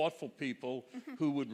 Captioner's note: chuckles